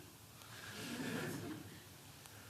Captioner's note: laughter